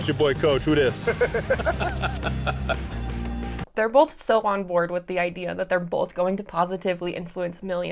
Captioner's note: laughter